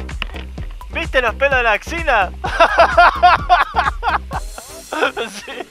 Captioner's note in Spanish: jajaja